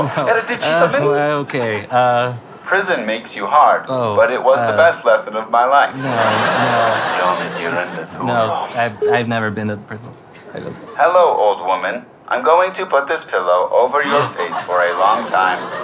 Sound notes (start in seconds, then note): 7.4 speaks italian